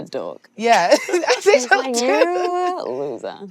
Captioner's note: laughing